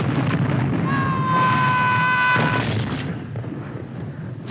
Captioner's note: man screaming